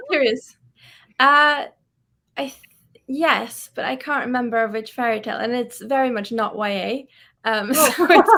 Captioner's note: laughs